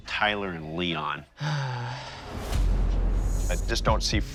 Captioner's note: sighs